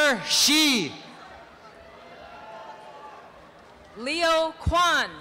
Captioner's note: applause and cheering